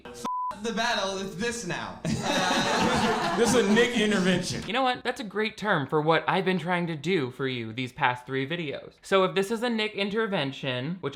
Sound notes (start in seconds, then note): 0.2 beeps; 2.0 audience laughing